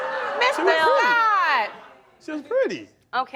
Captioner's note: crowd laughing